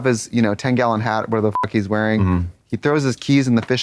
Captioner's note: beep